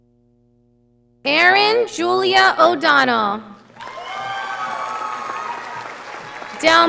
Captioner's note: audience applauding